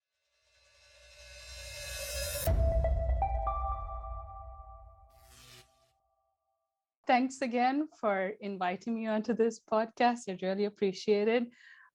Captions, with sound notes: (upbeat music) (electricity buzzes) - Thanks again for inviting me onto this podcast. I really appreciate it.